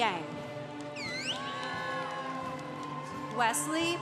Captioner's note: congregation applauding